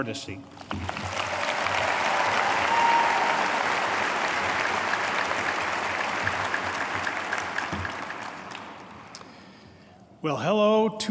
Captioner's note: applause